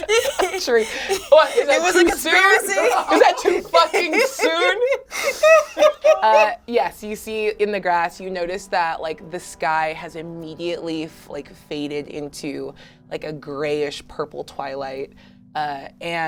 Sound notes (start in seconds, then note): 5.4 laughs hysterically